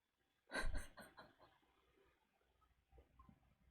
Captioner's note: laughs